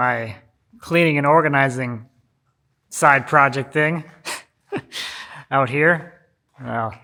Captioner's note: laughs